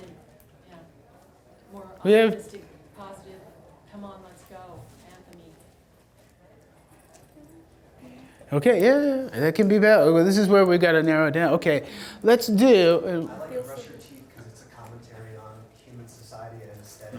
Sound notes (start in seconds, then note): 0.2 voiceover; 13.4 voiceover